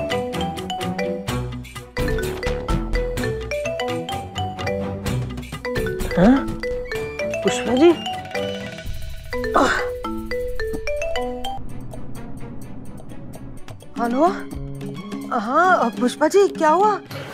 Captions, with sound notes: Pushpa? [grunting] Hello? Yes, Pushpa. What happened?